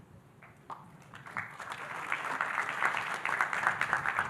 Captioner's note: audience applauding